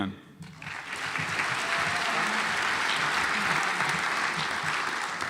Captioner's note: audience applauds